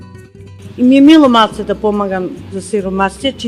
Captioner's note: speaking non-english